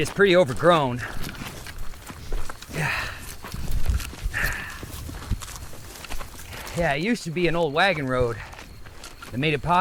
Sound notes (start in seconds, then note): 1.3 leaves rustling; 2.2 footsteps crunching; 4.3 deeply exhales; 4.5 footsteps crunching; 4.5 leaves rustling